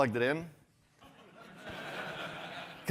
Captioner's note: laughter